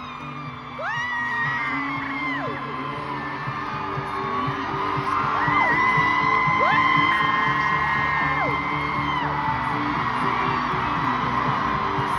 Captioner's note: lots of screaming